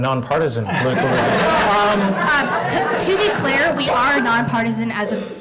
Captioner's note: laugh